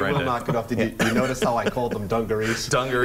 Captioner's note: laughter